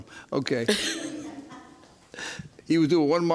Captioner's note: laughs